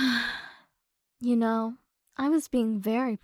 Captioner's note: sigh